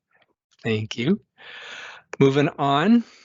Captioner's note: inhales